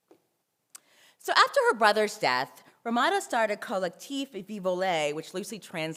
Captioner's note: french